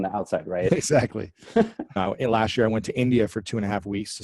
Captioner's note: laughs